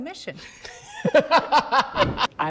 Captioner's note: all laugh